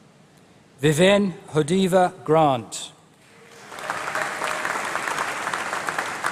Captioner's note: applause